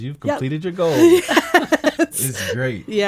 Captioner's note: laughing